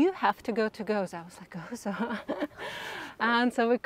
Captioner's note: chuckles